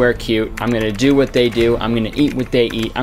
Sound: keyboard tapping

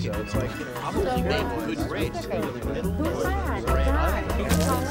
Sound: party chatter

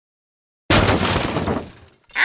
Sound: crash!

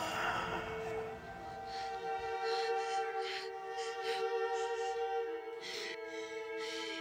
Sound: Brigit panting; soft emotional music

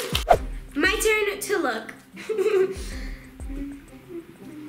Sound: laughing

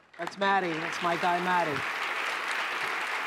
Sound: applause

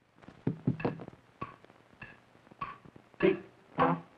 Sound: clock ticking

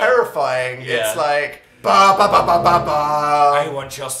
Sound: scary sound effect

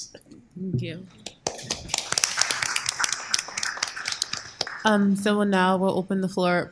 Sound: applause

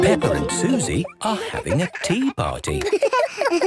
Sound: giggles, snorts

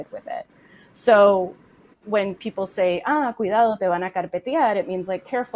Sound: speaks in foreign language

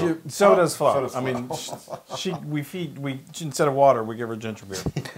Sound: laugh

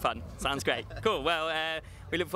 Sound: laughs

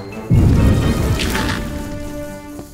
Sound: ground shakes

